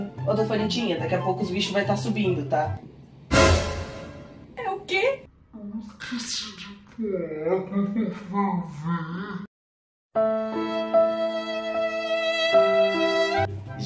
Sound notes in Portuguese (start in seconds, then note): 3.3 som de susto; 5.1 voz modificada p/camera lenta e tom grosso